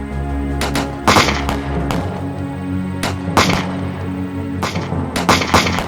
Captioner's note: gunshot cracking continues